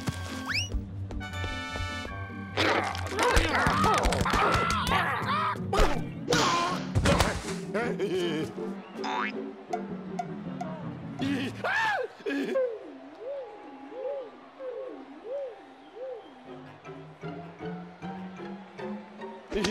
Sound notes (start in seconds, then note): 3.4 panicked clucking; 7.6 laughing; 11.6 screams